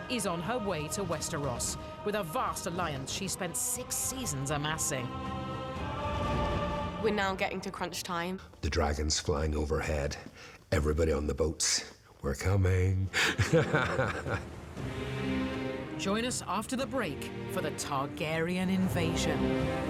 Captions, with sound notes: is on her way to Westeros with a vast alliance she spent six seasons amassing. We're now getting to crunch time. The dragons flying overhead, everybody on the boats, 'We're coming.' (LAUGHS) Join us after the break for the Targaryen invasion.